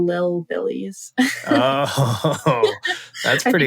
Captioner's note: laughter